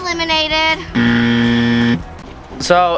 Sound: buzzer

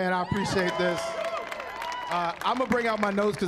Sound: cheering

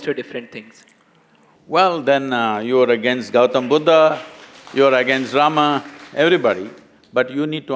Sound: applause

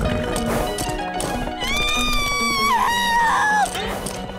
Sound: screaming

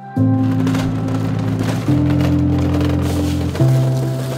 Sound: cart wheels rattling

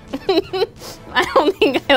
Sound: laughs

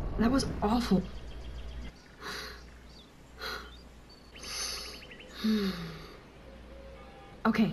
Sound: Max takes a deep breath

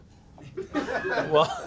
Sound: laughing

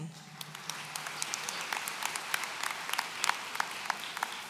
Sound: audience applauds

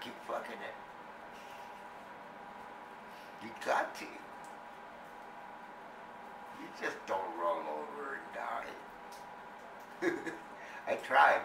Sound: laughs

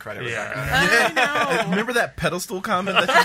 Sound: laughter

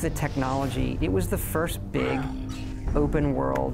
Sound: goblin shrieks

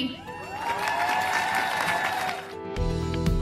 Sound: cheers and applause

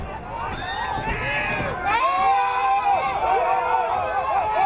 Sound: whistle blowing

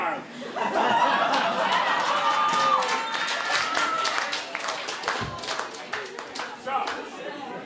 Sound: audience laughs and cheers

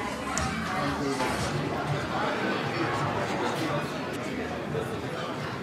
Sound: background chattering

